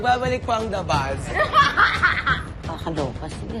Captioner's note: laughs